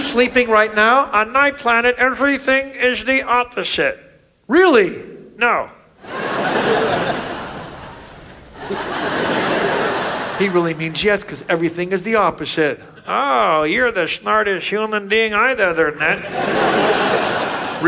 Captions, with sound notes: - You're sleeping right now? - On my planet everything is the opposite. - Really? - No. (audience laughs) - He really means yes 'cause everything is the opposite. - Oh, you're the smartest human I've ever met. (audience laughs)